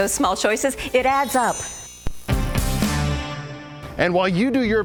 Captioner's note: bells chiming